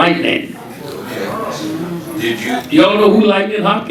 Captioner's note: audience chattering